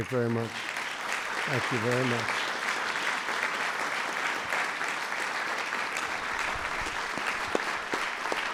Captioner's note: applause